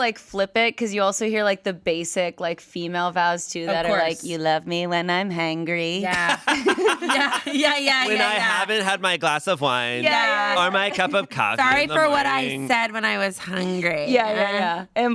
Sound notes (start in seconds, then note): 6.0 everyone laughs